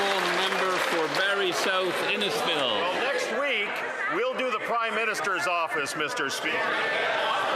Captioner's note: some Applause